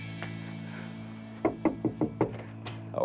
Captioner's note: knocking door